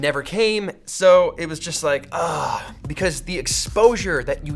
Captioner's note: sad sighs